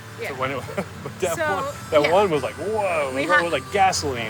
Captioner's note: laughs